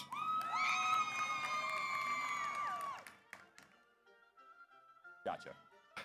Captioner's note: audience applauds; audience cheers